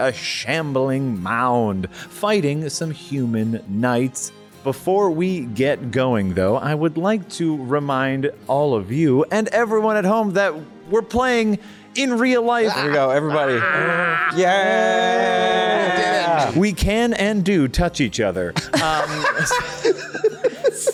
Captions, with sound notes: a shambling mound fighting some human knights. Before we get going though, I would like to remind all of you and everyone at home that we're playing in real life. -There we go, everybody. -Yay. -We can and do touch each other. [laughter]